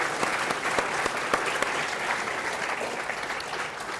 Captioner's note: applause